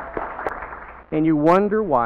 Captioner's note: applause